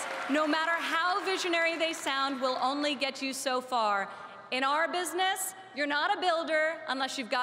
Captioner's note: applause